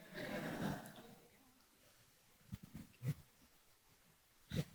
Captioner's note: audience chuckling